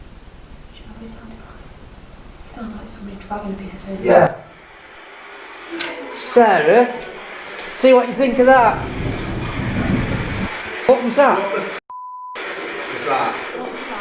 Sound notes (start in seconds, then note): 8.2 dragging; 11.9 beep